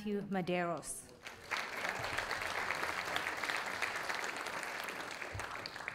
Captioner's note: audience applauding